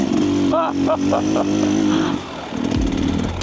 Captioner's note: laughing